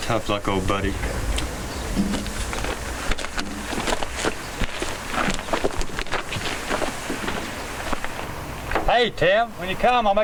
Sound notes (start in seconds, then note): 0.9 footsteps crunching